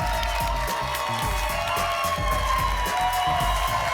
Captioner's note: applause and cheering